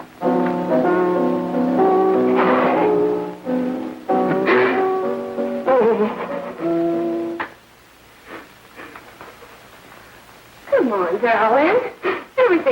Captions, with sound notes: (sobbing) - Come on, darling.